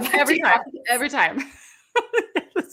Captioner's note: laughs; laughs